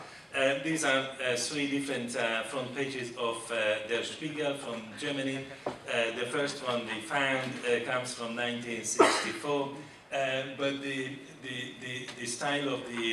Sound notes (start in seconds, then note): 6.5 foreign language